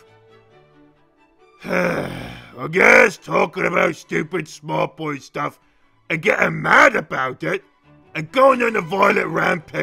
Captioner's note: sighs